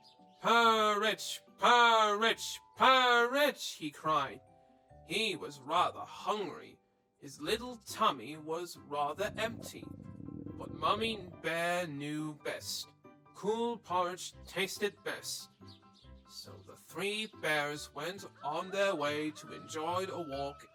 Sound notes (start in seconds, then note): 9.1 stomach rumbling